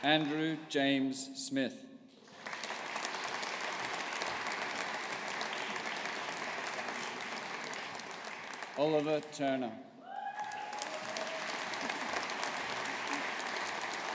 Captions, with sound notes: Andrew James Smith. (AUDIENCE APPLAUDING) Oliver Turner. (AUDIENCE APPLAUDING)